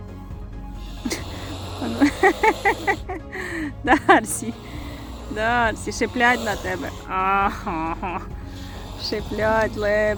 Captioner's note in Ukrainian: сміх